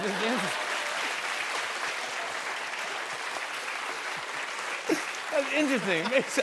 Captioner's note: cheers and applause